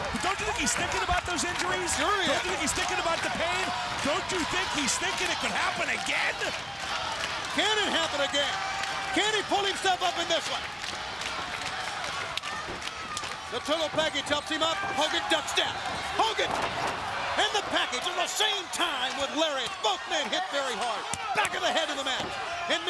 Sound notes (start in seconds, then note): 11.1 crowd clapping